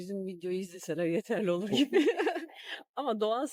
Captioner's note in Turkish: kahkaha